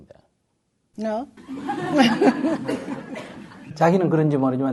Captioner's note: audience/Questioner laughter